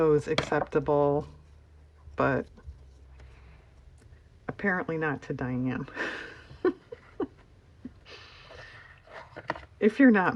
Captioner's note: laughs